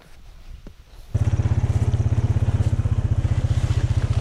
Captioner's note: ATV putters